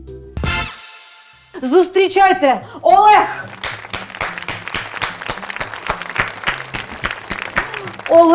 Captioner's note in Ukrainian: оплески